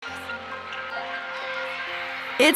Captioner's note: cheering on tv